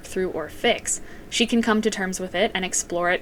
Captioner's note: none